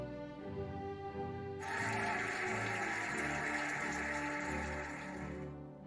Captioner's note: cheering and applauding